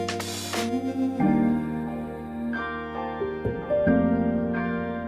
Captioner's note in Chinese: 哼聲